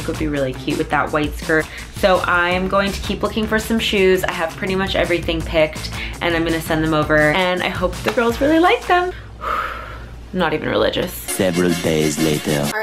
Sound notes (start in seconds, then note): 9.2 sighs